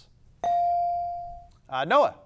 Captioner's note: bell dings